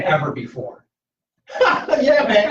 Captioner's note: laughter